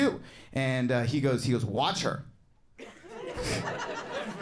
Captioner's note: audience laughing